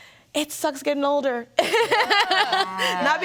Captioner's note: laughs